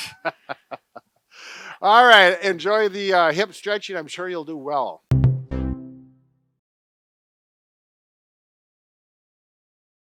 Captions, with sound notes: (both laugh) All right, enjoy the hip stretching. I'm sure you'll do well. (cheerful tone)